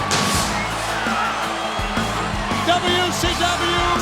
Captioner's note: pyrotechnics blast